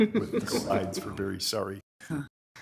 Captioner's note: attendees laughing